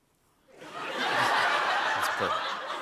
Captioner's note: laughter